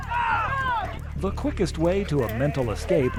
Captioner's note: crowd shouting